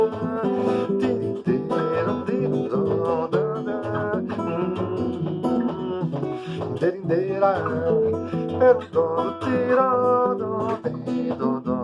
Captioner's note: humming